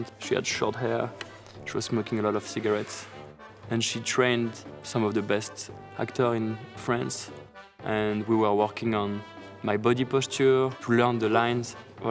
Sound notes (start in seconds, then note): none